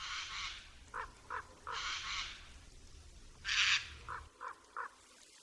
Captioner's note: głosy kruków i srok, szum wiatru